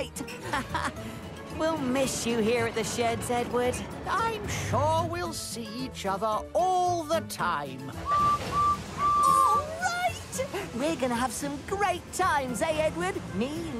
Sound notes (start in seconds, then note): 8.0 whistles